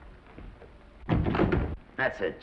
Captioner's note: doors latching